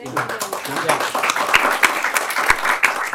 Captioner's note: applause